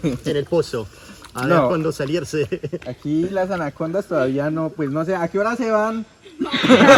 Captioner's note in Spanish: risa